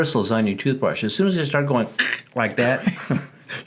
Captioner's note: quacks; laughing